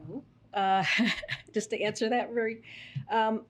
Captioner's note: laughs